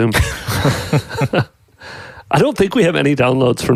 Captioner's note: laughing